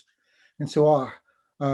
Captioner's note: foreign language